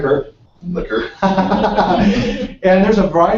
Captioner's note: laugh